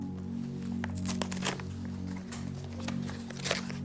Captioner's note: paper ripping